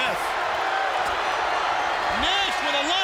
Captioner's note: crowd cheering